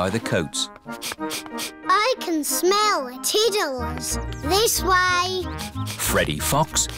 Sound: sniffs

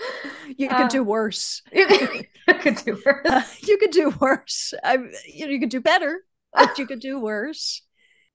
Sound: laughs

